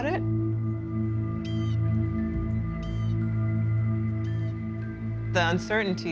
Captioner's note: bird cawing